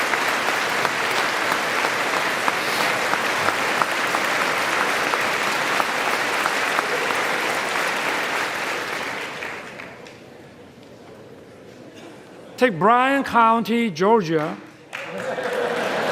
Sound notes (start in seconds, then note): 1.8 applause